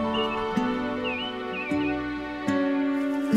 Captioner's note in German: Vogelzwitschern